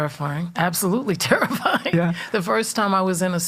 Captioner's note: laughing